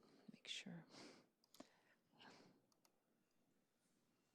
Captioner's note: none